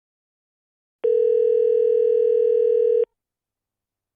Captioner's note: sound of telephone ringing